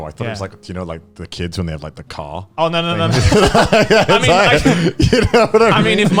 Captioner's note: laughs